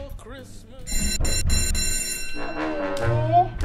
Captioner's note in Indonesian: Bell Darurat